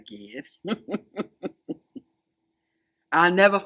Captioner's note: laughing